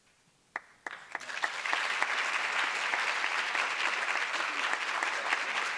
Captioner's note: audience applause